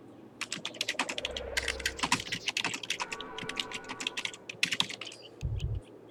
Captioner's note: typing sounds